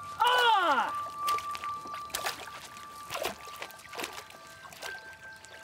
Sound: water splashing

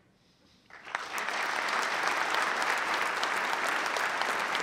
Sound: applause

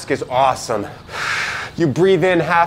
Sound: heavy inhale

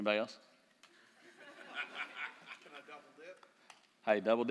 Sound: laughter

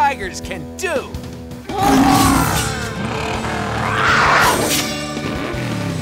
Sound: roaring

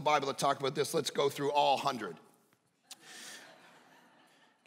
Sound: congregation laughing

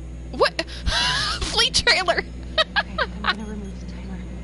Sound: laughs

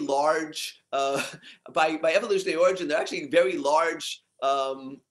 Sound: laugh

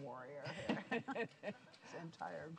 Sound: interviewer laughs

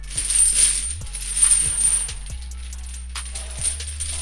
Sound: chains clinking

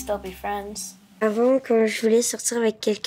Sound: Milo speaking in French

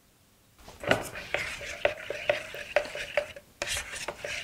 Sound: plastic clacks

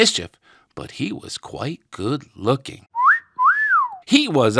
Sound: whistles

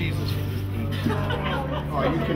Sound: laughter

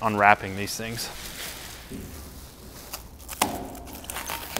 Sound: wrapper crumpling

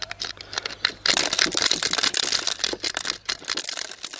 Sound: tinkling

